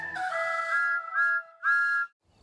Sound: whistle toots

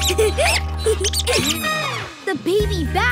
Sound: squeaking and giggling

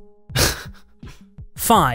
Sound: laughs

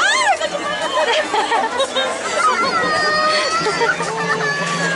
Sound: laughter

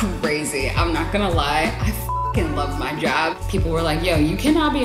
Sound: beep

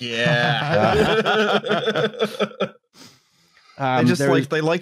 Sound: laughter

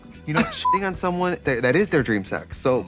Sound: beep

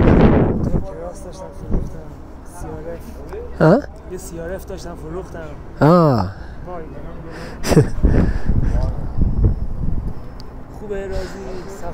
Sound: talking in Persian

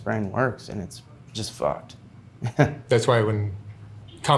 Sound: laughing

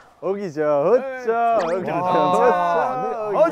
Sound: cheering

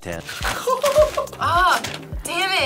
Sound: laughing

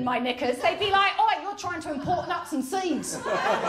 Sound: new zealand accent

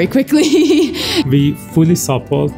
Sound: laughs

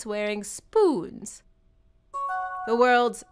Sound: new message chime

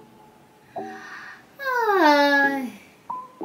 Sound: sighing

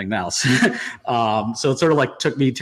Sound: laughs

